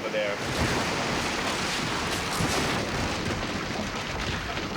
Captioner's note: ceiling collapsing